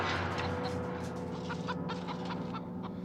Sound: chicken clucking

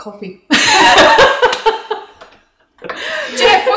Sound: laughing

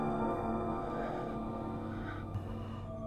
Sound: sniffing Lightly

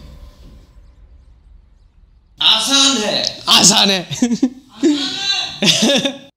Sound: distant voice screaming

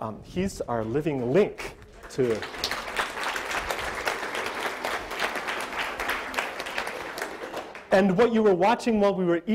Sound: audience applause

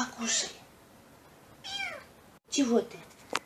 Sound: kitten meows

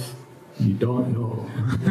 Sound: laughter

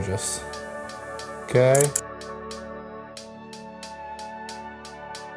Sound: camera clicks

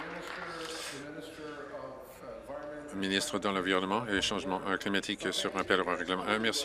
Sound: applause

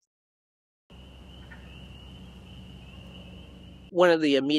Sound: nature sounds

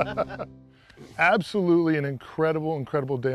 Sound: laughter

